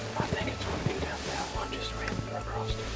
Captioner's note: whispering